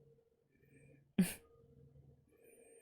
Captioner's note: chuckles